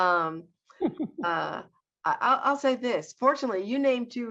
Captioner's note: laughs